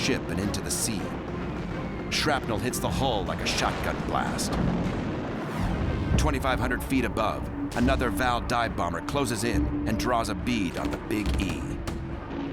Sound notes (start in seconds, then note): 3.2 explosion